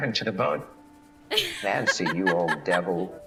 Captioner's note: nancy laughs